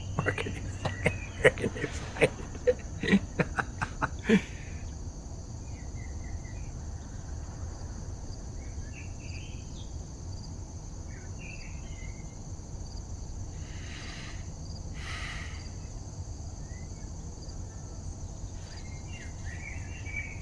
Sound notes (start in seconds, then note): 3.6 laughs; 4.7 animals chirping